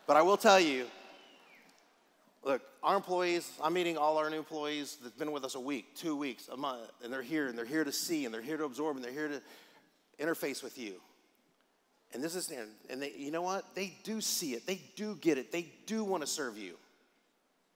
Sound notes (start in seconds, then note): none